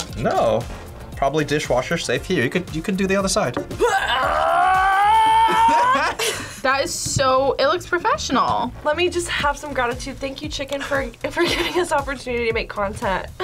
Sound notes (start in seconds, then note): 3.8 yells; 5.2 laughs